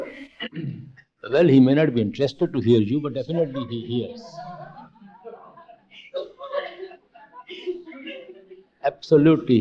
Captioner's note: laughter